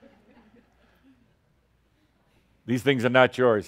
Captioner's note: a few chuckles